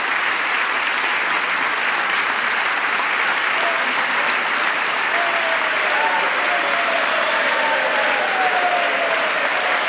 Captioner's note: applause